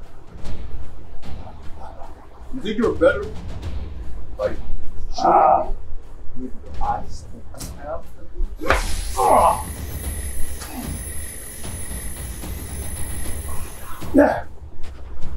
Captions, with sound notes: You'd think you are better? Like, shooting me with your eyes that you have on you. (Billy Butcher and Soldier Boy grunt)